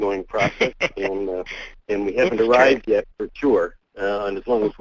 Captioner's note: voiceover